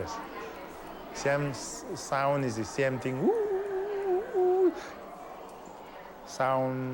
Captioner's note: imitates wind blowing